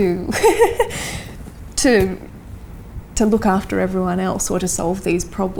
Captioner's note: laughs